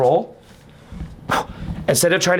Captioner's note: blows on candle